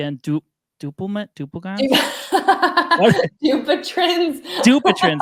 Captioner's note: laughing